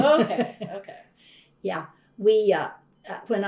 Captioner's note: laughs